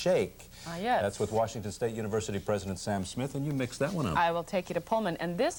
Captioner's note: none